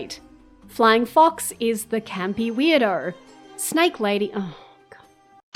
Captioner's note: sigh